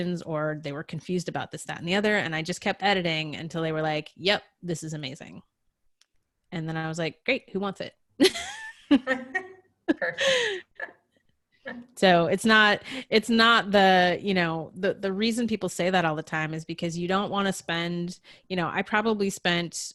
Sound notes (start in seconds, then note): 8.9 laughing